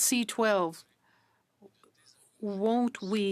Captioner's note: speaking in French